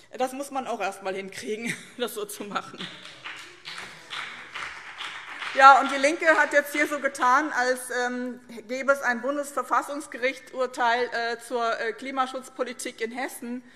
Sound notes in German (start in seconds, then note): 2.5 Beifall BÜNDNIS 90/DIE GRÜNEN